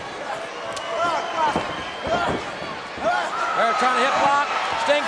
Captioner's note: audience cheering